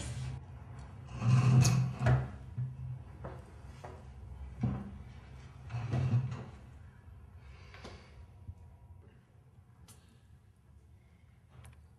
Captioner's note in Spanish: sin sonido